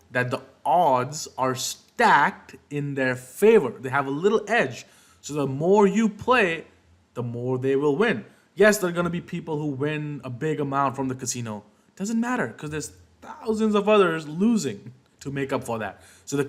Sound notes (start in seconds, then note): none